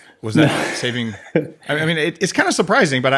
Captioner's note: laughs